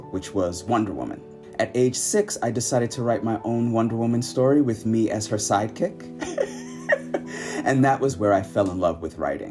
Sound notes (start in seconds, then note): 6.2 giggling